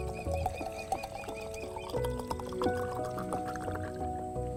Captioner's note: liquid splashing